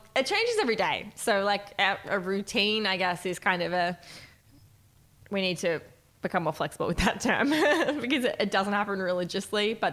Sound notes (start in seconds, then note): 7.6 chuckles